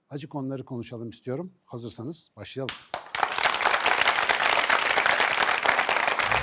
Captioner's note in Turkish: alkış